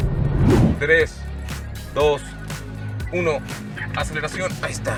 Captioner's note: engine revving